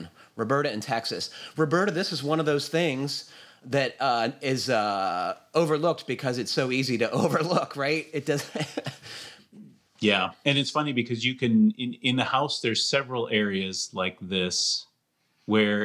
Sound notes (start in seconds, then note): 8.3 laughs